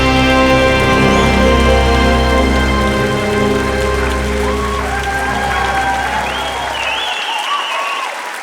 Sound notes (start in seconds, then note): 3.7 loud applause